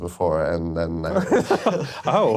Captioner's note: laughter